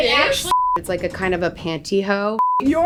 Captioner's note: beep; beep